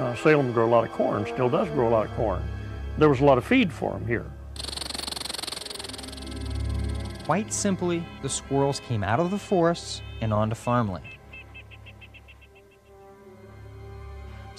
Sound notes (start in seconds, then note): 0.0 dramatic music; 4.5 squirrel chittering; 5.8 dramatic music; 12.4 dramatic music